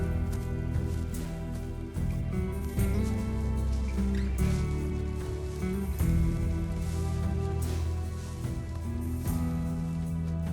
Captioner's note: footsteps